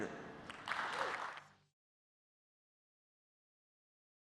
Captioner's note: applause